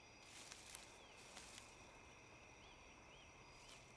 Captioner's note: grass rustling